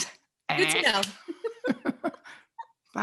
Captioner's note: both laughing